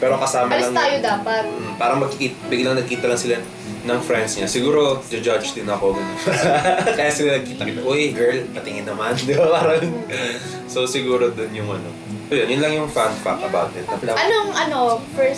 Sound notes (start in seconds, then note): 6.0 laughs; 9.0 laughs